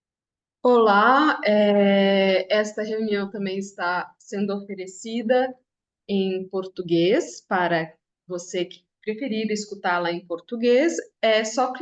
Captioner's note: interpreter introduces themselves in Portuguese